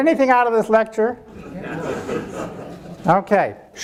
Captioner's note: audience laughing